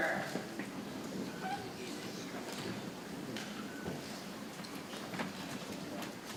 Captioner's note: people chattering softly